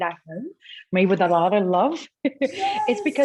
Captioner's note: giggles